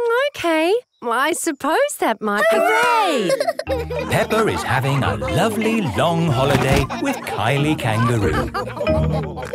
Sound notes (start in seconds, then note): 3.0 all laughing